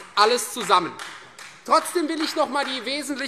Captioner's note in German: Beifall Freie Demokraten